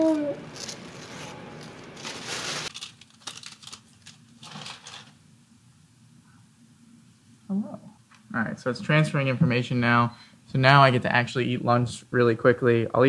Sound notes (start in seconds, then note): 1.5 plastic peeling from computer; 2.6 plastic rustling